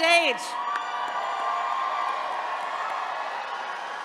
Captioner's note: attendees cheering